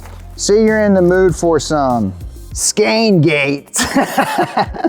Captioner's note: laughs